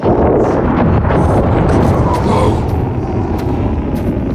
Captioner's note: grunts